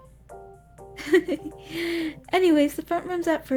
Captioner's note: giggles